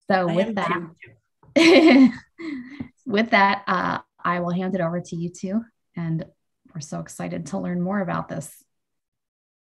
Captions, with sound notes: So with that- - Thank you. - (laughs) With that, I will hand it over to you two, and we're so excited to learn more about this.